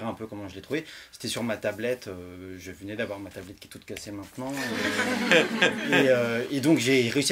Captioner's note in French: rires